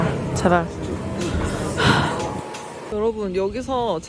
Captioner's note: sigh of relief